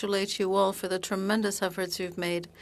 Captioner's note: speaking French